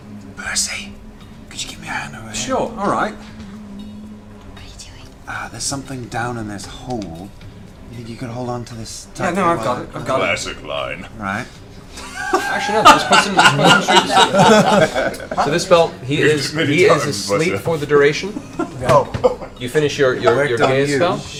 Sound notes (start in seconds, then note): 0.3 whispers; 4.2 whispers